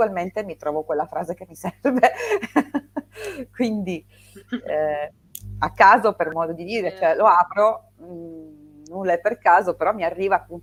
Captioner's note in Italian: risate